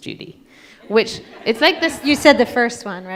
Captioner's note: audience laughs